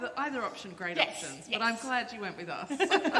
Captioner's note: laughter